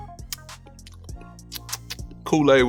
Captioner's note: lips smacking